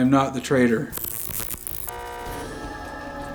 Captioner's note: digital buzzing and horn honking; dramatic music